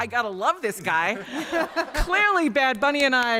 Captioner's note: laughter